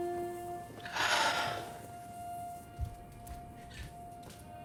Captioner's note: lips smooching; Angela sighing